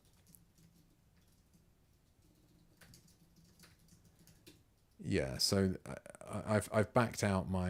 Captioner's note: silence